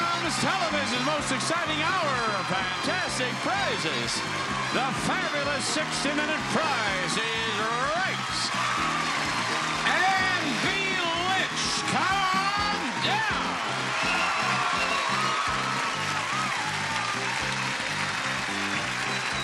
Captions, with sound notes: Here it comes! Television's most exciting hour of fantastic prizes! The fabulous 60-minute "Price is Right" (lively music) (audience applauding) Anne Delich come on down! (lively music) (audience applauding)